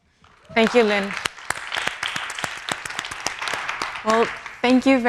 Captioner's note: audience applauding